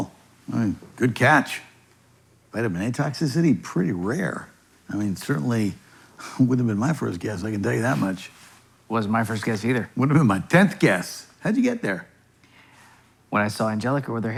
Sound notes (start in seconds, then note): none